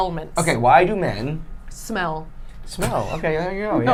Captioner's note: laughing